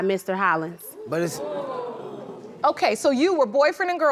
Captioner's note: crowd gasps